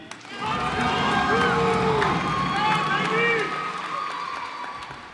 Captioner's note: cheers and applause